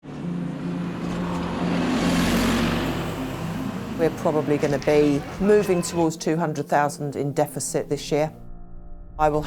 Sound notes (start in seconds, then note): 0.0 gentle music; 0.1 engine revving